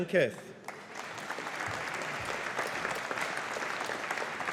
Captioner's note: audience applauding